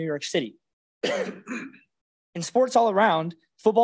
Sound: coughs

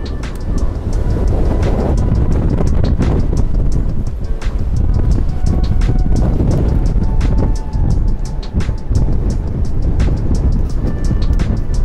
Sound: extremely blustery wind

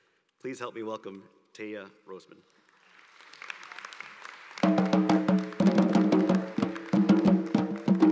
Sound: applause

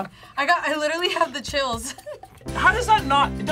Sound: laughs

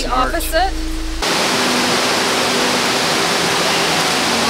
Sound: water rushing

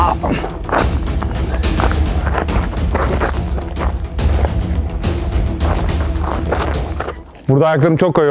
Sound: grunting and background sound effects

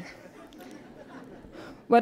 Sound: laughter

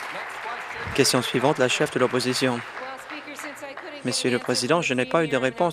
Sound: applause

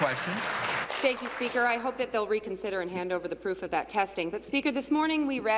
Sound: applause

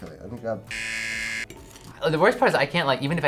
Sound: buzzer rings

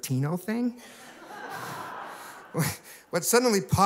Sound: laughter

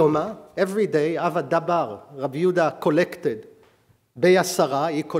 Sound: speaking hebrew

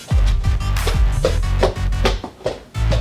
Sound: stomps away

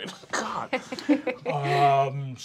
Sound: laughter

